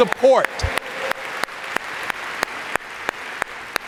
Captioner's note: all applauding